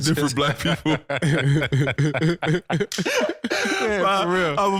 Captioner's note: all laughing